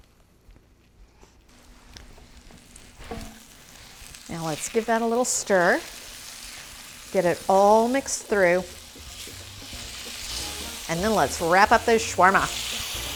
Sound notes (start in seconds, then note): 3.1 pan sizzling